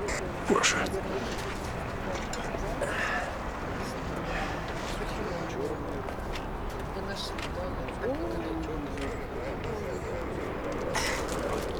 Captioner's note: background conversations